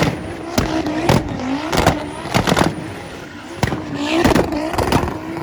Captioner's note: car engine roaring